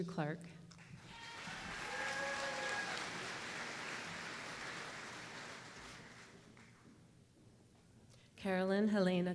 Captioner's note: applause